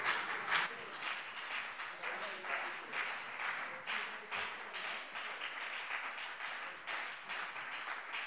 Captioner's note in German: Beifall BÜNDNIS 90/DIE GRÜNEN und CDU